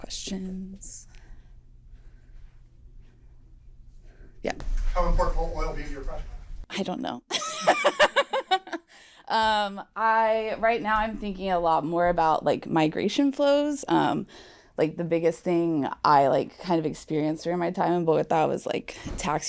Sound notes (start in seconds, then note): 7.4 laughs